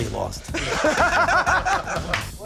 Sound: laughter

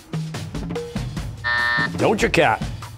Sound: buzzer

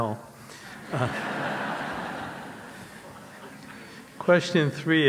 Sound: audience laughs

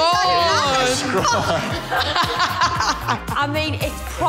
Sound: laughter

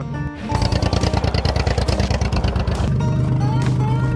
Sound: vehicle engine roars

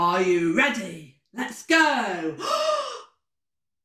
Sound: gasp

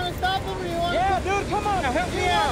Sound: both yelling

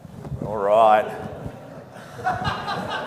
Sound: audience laughing

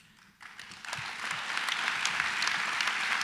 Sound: applause

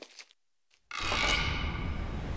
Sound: creak

